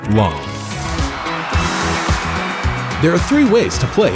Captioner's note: crowd cheers